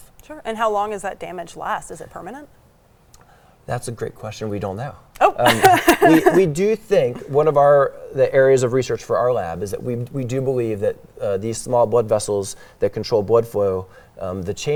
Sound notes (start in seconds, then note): 5.4 laughs